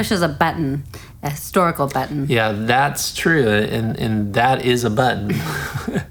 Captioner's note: laugh